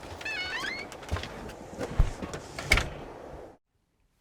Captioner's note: door creaks